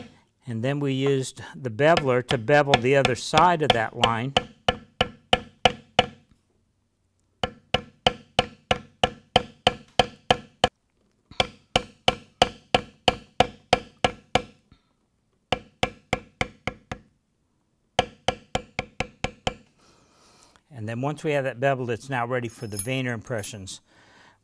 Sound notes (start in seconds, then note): 4.6 tapping